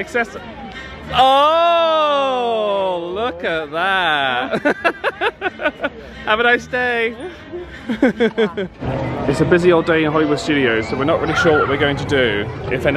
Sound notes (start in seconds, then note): 4.2 chuckles